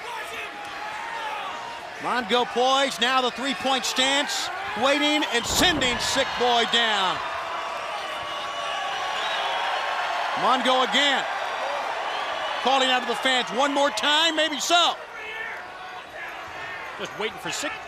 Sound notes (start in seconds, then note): 1.1 crowd chatter; 6.8 crowd cheering